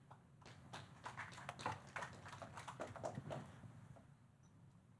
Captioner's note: audience clapping